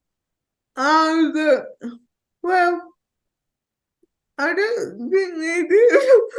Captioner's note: laughing